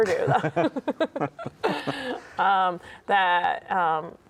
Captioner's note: both laugh